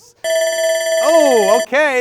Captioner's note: alarm rings